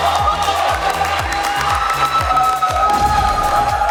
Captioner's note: clapping